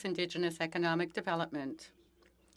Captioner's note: speaking French